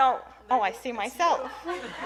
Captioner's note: laughter